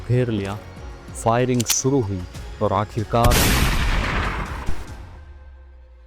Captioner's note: gun fire sound